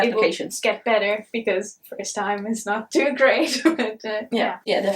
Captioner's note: chuckles